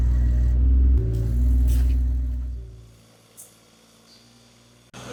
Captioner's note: machine drilling